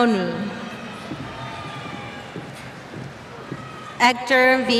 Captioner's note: cheers